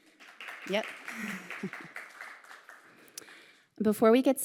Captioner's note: audience applauding